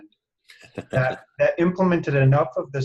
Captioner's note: laughs